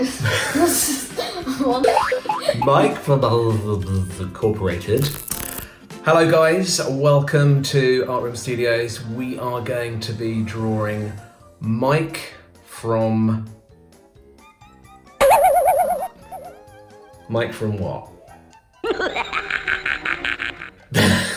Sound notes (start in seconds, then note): 0.0 both laughing; 15.2 spring boinging; 18.8 evil laughing; 21.1 both laughing